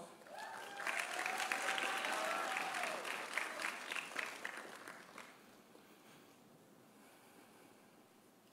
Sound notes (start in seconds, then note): 0.2 audience applauding; 0.2 audience cheering